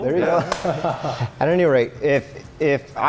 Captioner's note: chuckles